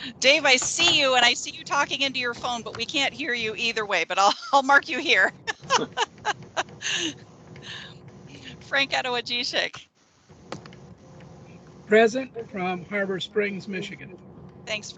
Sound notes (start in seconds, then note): 5.8 laughs